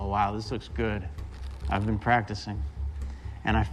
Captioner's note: riffling cards